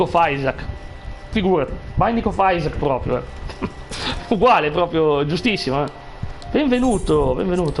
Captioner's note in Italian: risate